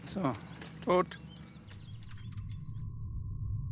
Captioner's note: birds chirp